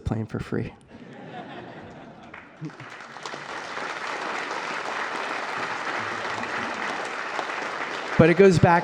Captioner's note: applause